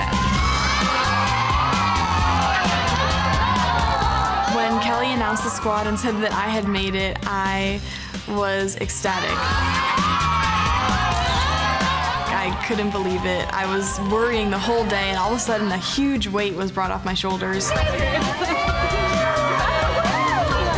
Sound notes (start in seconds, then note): 0.0 cheering loudly; 9.1 cheering loudly; 17.6 cheering